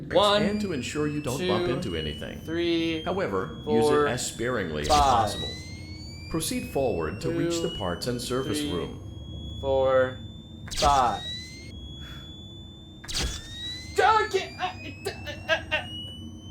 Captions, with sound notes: One, two, three, four, five. ...Two, three, four, five. (Sounds of stress)